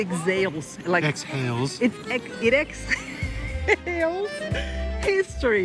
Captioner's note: laughing